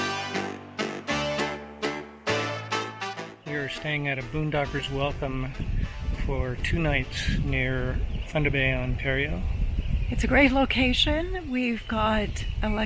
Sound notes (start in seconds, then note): none